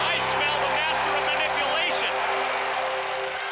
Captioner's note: crowd cheering